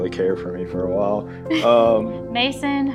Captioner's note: giggles